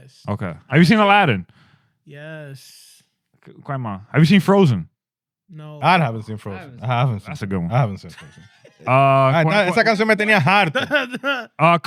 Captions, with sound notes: Okay, have you seen Aladdin? Yes. Grandma, have you seen Frozen? No. I haven't seen Frozen. That's a good one. I haven't seen Frozen. (Laughing) (Speaking In Foreign Language)